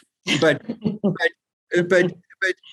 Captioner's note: laughs